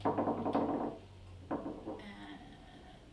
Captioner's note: knocking